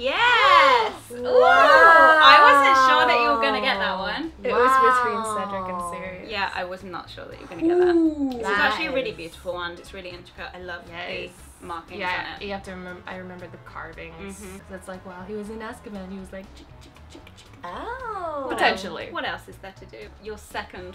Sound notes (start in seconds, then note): 16.5 writing sound